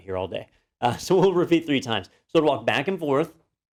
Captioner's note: laugh